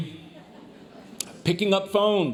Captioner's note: audience laughs